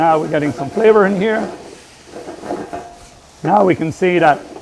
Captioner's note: food sizzling